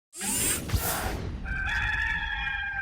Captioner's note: camera zooming; gamecock crowing